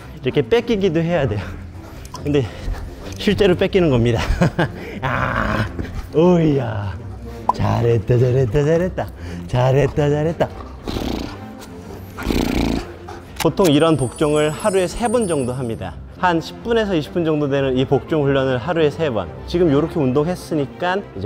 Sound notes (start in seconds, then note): 11.9 purr-rrr; 12.2 purr-rrrrrrrrr